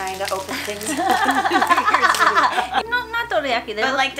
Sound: both laughing

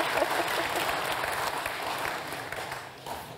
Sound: audience applauding

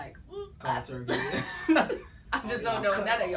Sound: laughs

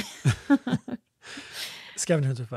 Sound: laughs

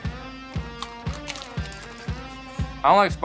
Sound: lettuce crunching

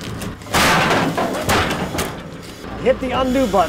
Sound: log thuds

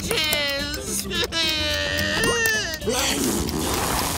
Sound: sobbing

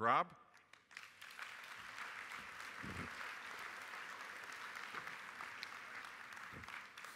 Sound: applause

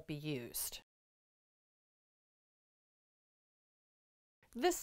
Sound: no Sound Present

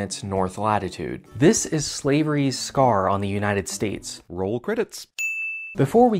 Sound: ding

